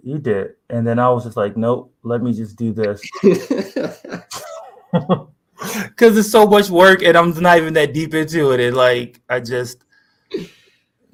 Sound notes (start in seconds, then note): 3.0 laughter